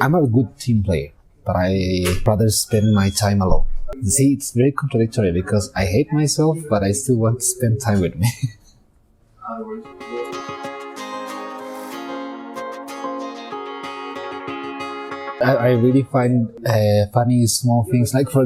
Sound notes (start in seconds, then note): 7.9 laughs